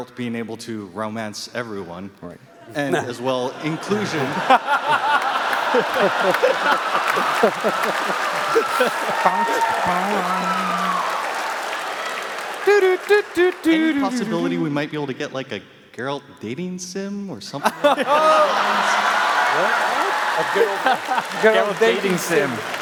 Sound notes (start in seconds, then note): 4.8 cheers and applause; 4.8 laughs